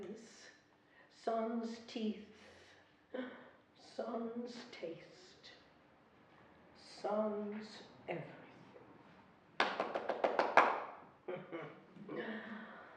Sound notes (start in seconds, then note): 9.6 clapping